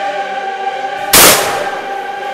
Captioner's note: gun fires